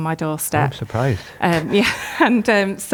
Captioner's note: chuckles